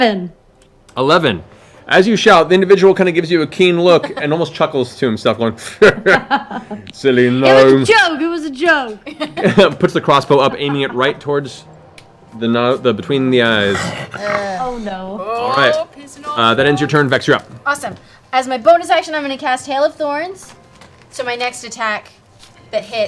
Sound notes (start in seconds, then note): 5.6 laughs